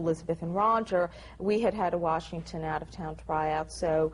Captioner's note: none